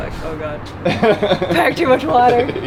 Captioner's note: laughs